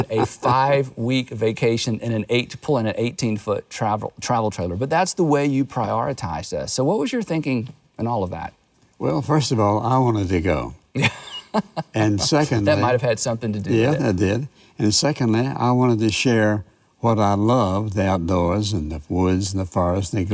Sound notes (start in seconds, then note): 11.0 laughs